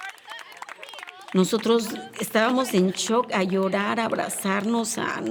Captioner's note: speaking Spanish